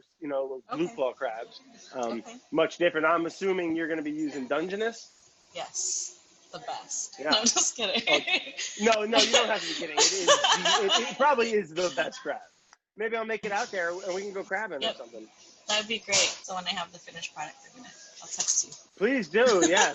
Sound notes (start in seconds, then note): 7.2 laughs; 19.4 laughs